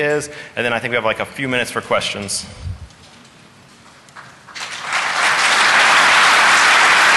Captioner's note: applause